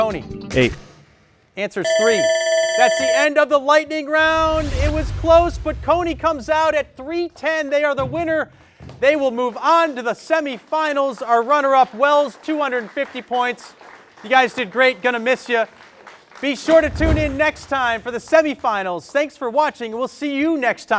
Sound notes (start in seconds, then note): 1.8 alarm sounds